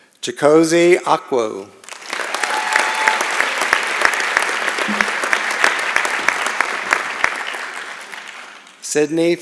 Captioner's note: applause